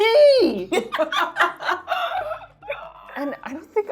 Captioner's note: laughing